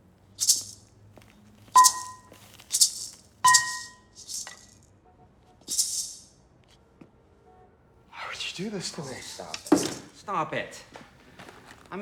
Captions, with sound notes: (maraca shaking) (metal banging) - Why would you do this to me? - Oh, stop it. Stop it.